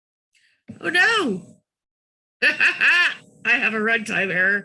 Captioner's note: laughs